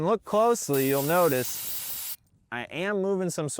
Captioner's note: air hissing